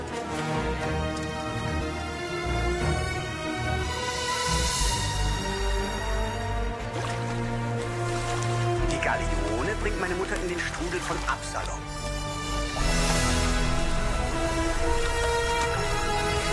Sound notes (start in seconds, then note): 0.7 music strings; 6.7 water splashing; 13.1 water splashing